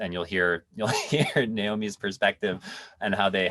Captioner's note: laughs